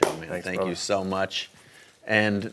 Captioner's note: clapping